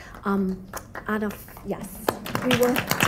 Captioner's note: applause